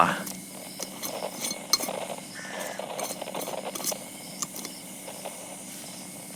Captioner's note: screwing jar closed fx